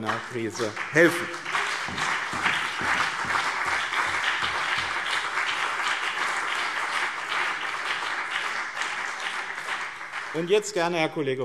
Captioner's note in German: Beifall BÜNDNIS 90/DIE GRÜNEN und CDU